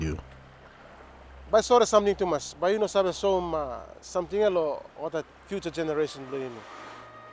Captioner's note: speaks in foreign language